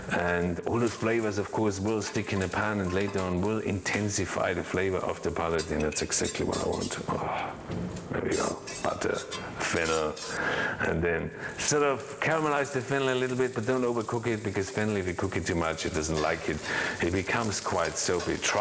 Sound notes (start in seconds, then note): 7.7 sighs